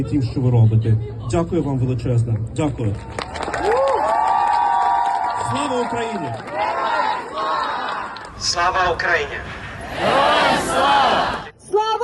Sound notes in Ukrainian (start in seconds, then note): 2.9 люди аплодують